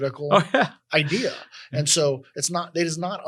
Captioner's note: laugh